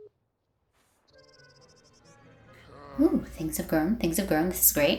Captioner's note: uncomfortable moodlet sound plays